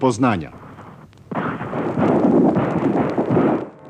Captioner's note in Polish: odgłosy strzałów